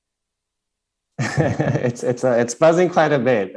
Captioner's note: questioner Laughter